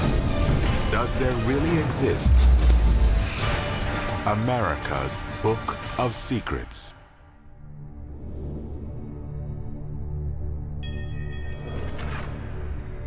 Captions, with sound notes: Does there really exist America's Book of Secrets? [bell rings]